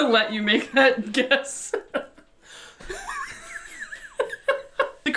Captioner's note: laughing